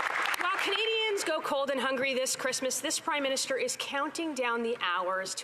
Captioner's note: some Applause